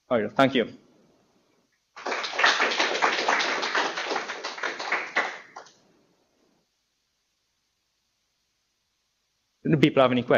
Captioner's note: applause